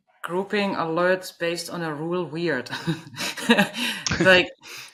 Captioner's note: laughing